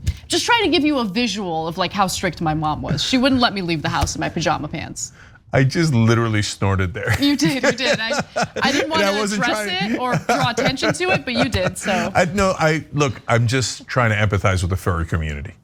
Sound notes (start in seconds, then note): 7.0 laugh